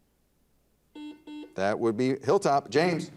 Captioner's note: buzzer dings